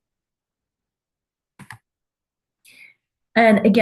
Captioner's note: clicking